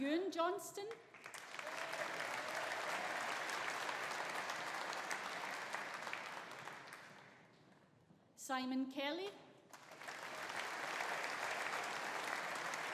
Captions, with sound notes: Euan Johnstone. (AUDIENCE APPLAUDING) Simon Kelly. (AUDIENCE APPLAUDING)